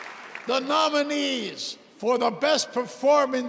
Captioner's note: cheers and applause